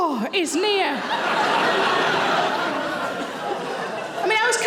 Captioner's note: audience laughing